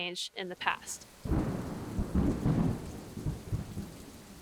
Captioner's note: thunder sound